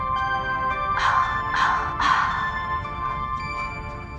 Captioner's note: gasps